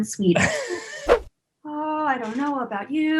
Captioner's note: laughing